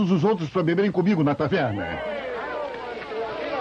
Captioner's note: crowd cheers